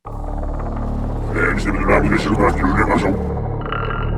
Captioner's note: demonic voice